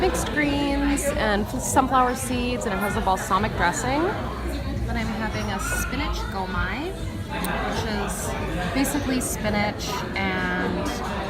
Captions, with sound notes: mixed greens and sunflower seeds, and it has a balsamic dressing. Then I'm having a spinach (speaks in foreign language), which is basically spinach and